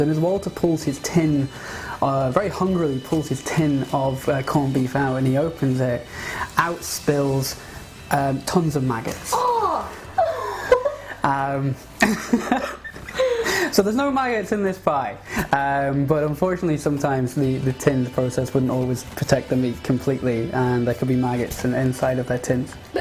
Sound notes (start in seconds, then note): 12.0 laughter